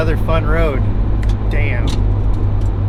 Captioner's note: snaps fingers